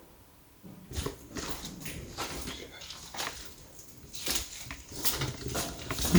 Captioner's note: clear footsteps; the sound of footsteps is heard